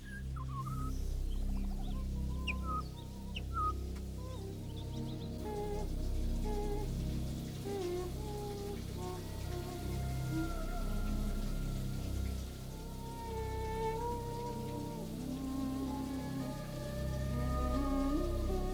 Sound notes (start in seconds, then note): 0.2 ominous music; 7.6 Kate hums